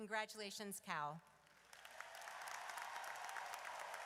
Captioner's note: audience cheers